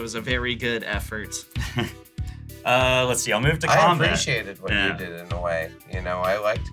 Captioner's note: laughs